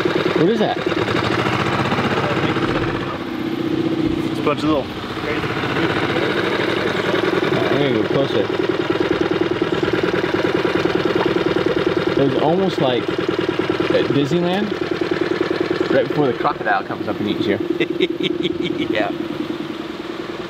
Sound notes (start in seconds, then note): 17.6 chuckles